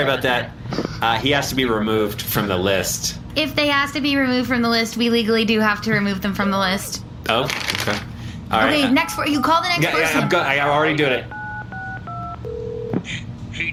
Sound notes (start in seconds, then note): 11.2 phone ringing; 11.3 dialing